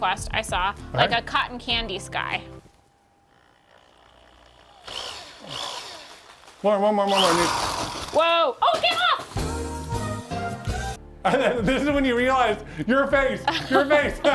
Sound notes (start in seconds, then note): 4.8 power drill whirring; 9.3 bright music